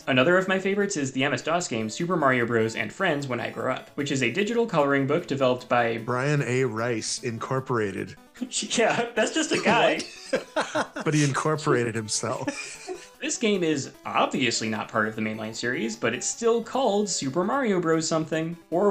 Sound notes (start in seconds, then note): 9.5 laughing